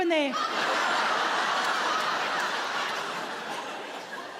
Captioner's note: audience laughing